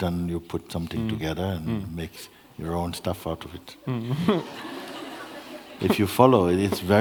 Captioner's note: laughter